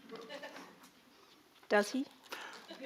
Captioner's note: audience member chuckles